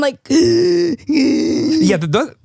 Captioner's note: gasping